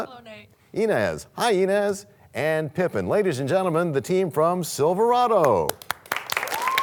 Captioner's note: cheers and applause